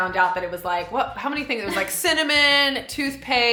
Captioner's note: laughs